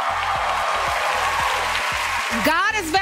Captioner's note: applause